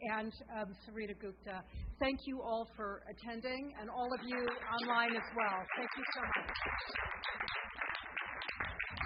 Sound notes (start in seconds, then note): 7.5 audience applause